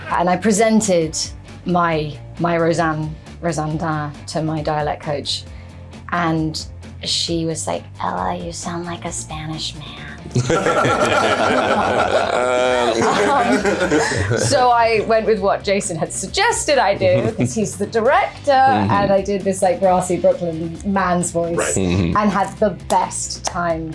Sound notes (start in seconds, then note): 10.3 laughing